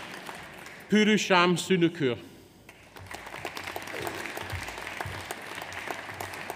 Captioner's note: audience applauds